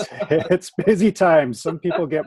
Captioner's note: chuckles